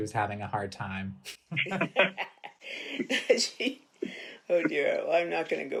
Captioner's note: people laughing